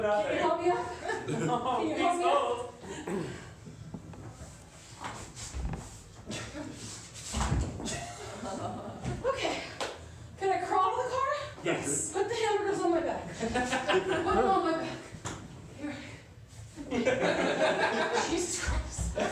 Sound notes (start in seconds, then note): 3.7 struggling